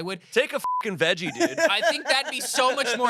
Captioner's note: beep